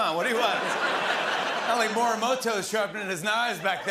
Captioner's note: laughter